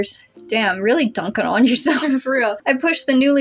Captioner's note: laugh